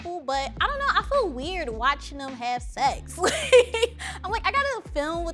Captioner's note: laughing